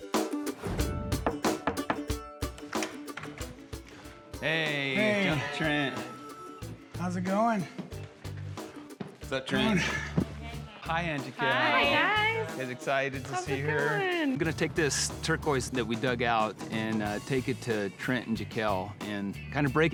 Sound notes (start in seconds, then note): 0.8 knocking on door; 3.4 door opens